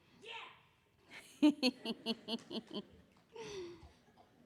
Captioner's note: laughing